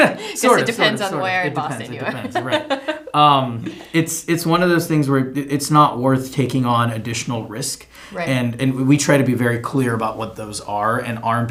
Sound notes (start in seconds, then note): 1.6 giggles